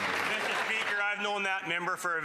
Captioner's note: some Applause